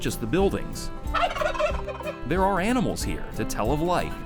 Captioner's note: turkey gobbling